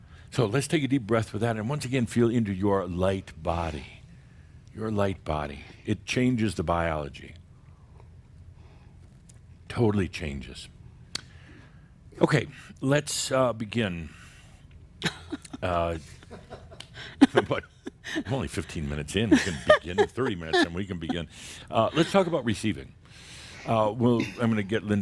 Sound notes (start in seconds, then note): 15.0 chuckles; 16.0 continues laughing